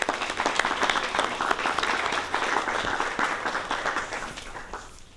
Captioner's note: applause